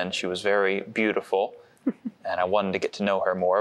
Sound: giggle

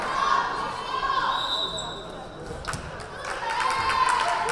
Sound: whistle blaring; crowd cheering

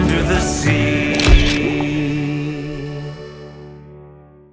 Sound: camera clicks

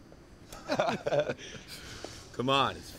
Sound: laughing

